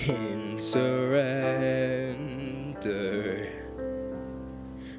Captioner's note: none